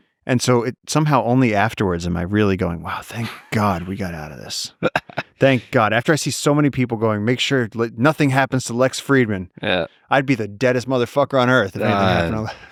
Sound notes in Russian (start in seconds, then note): 4.4 Лекс смеётся